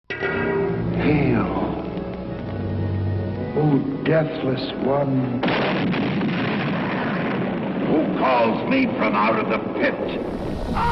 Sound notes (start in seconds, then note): 5.4 explosion